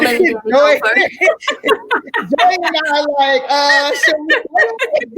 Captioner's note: laughs loudly